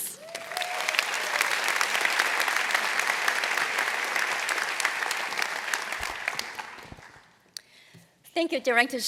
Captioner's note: applause